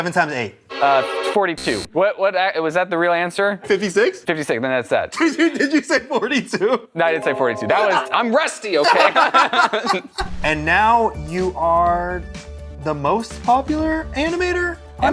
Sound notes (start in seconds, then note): 6.7 laughs; 8.8 laughter